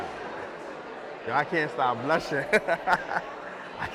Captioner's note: laughs